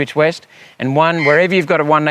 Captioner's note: eagle screaming